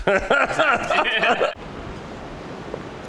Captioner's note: laughs